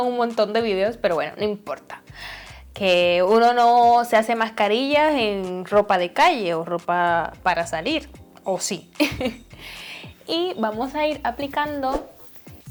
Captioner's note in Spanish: risas